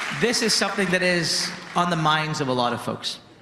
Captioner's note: applause